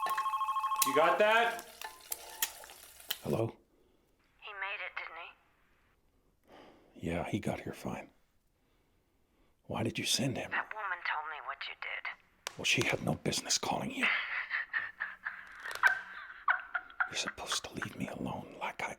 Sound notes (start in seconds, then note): 1.9 phone ringing; 16.5 Angie laughs